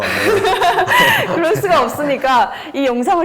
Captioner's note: laughs